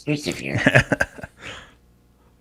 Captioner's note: laughs